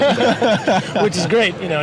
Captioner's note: laughs